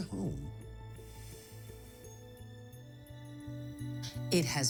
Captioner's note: sighs